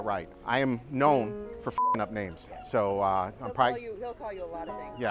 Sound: beep

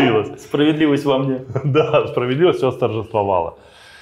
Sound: laughing

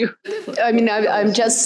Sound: laughs

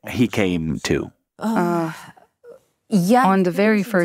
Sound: sighs

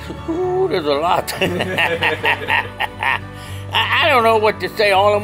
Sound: laughs

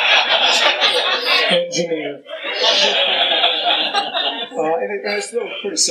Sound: laughter

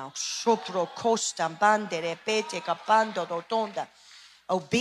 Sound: speaking in tongues

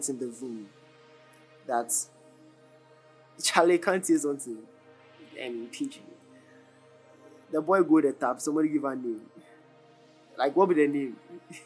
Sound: in pidgin

